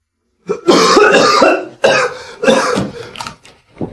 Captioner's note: cough, cough